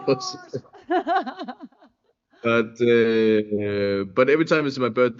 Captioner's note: chuckles